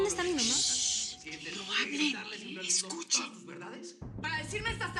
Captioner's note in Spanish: En voz baja